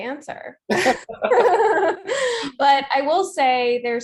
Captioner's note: laughing